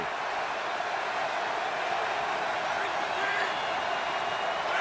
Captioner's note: cheering